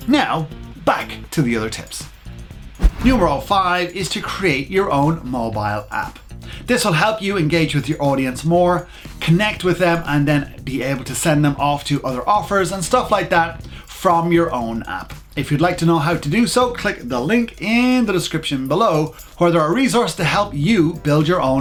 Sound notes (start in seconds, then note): 2.8 whoosh